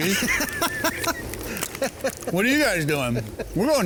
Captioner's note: laughs